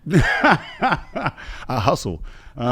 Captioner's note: laughs